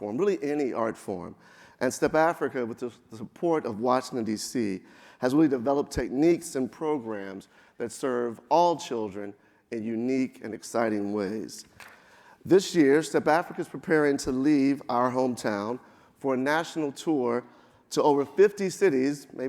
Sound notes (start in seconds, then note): none